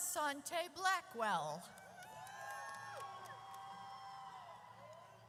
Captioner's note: audience cheers